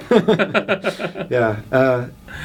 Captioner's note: both laugh